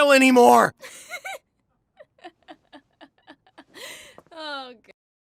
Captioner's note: laughter